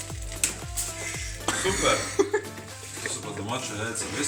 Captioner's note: laughing